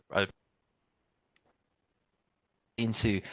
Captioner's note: audio dips